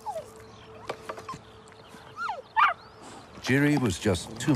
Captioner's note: whimpering